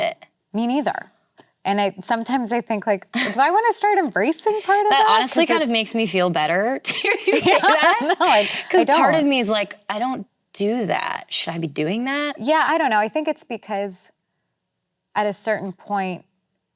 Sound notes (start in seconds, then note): 7.0 laughs